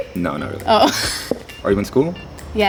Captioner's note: chuckles